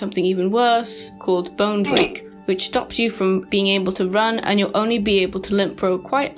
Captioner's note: Minecraft Oof with Bone Cracking